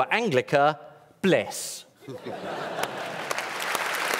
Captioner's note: laughter; applause